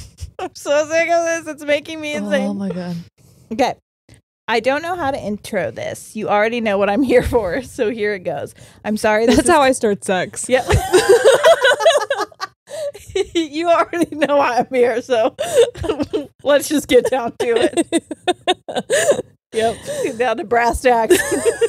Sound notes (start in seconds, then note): 10.6 both laughing; 16.8 laughs